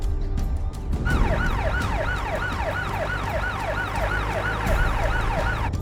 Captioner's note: siren blaring